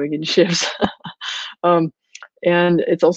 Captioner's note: laughing